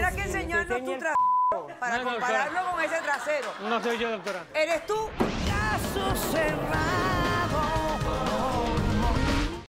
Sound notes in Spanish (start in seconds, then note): 1.1 Bip; 2.0 Risas